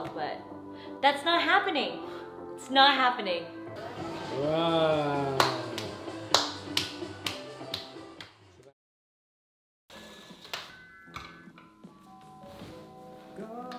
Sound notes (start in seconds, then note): 5.2 clapping; 10.5 soothing music